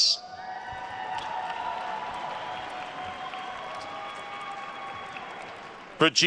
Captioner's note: attendees cheering and applauding